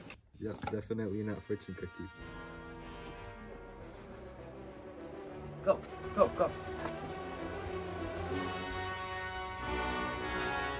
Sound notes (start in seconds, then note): none